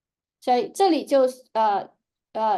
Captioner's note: speaking chinese